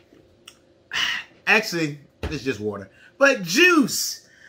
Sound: sighs

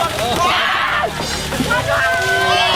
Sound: screaming from coldness

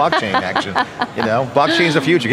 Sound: laughing

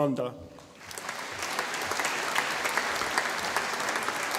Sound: audience applauding

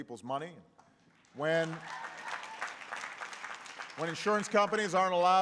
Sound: applause

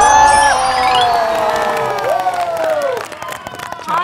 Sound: A round of applause in happiness

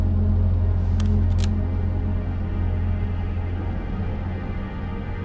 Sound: pistol cocking

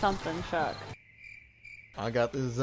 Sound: crickets

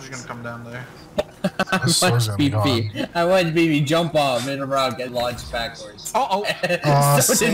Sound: continues chuckling; continues chuckling

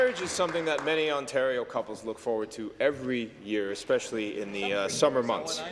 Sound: some Applause

